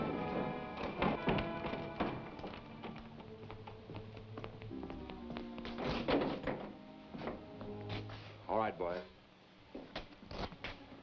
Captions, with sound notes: (door rattles) - All right, boys.